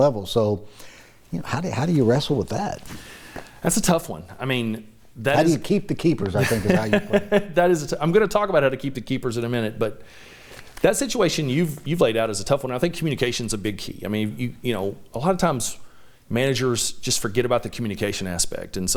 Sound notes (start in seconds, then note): 6.3 laughs